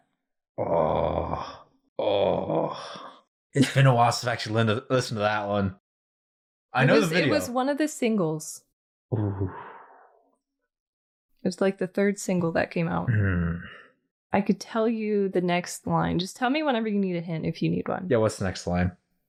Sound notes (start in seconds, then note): 0.6 grunts heavily; 2.2 grunts heavily again